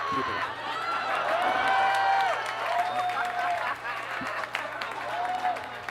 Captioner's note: audience cheers and laughs